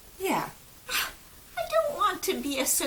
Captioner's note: scoff